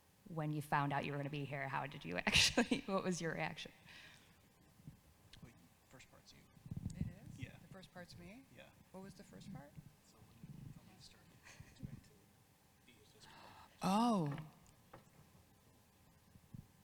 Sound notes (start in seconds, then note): 2.8 chuckles; 10.3 man chattering